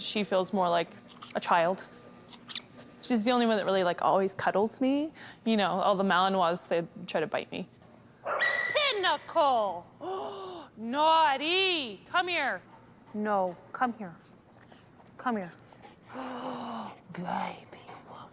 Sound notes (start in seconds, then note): 10.0 gasps